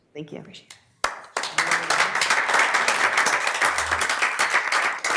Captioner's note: everybody applauding